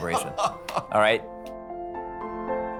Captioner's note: laughing